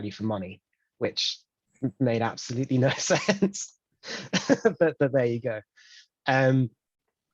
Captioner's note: laughs